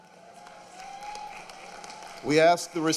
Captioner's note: applause